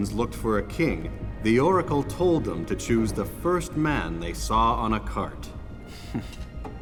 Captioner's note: gasps